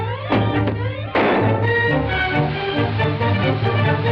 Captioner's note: popping noise